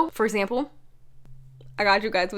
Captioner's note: awkward silence